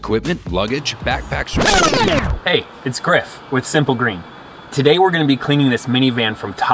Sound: record scratch

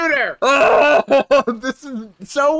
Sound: muffled yelling

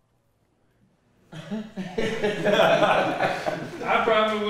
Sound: people laughing

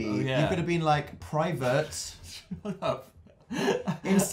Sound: giggling

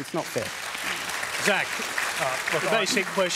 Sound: applause

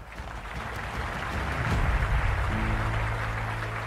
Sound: applause

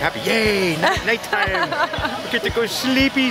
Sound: laughter

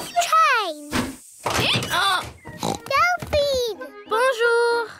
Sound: brays; oinks

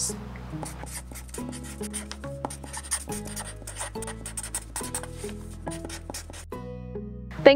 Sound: marker scratching on paper sounds

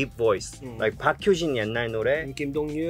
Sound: speaking in Korean

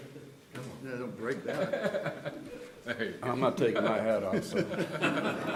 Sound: laughter

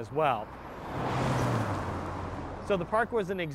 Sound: car engine roars

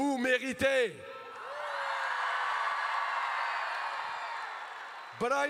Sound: crowd cheers

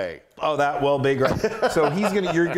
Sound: laugh

